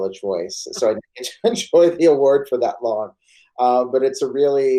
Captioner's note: laughs